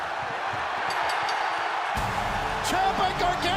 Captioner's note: bell ringing